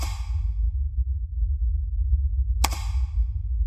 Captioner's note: mouse clicking